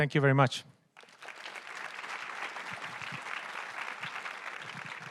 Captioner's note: audience clapping